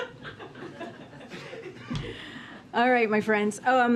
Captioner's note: laughter